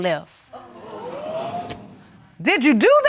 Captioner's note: audience exclaiming